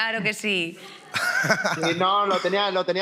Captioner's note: laughs